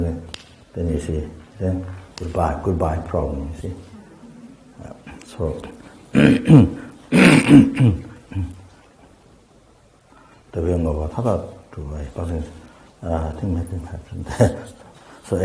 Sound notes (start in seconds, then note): 0.3 snaps fingers; 4.6 tibetan